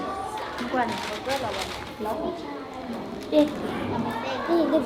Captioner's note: foreign language